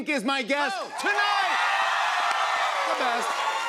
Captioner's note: cheers and applause